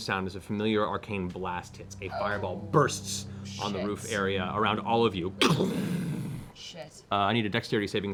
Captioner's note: explosion noise